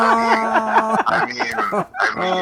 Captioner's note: laughing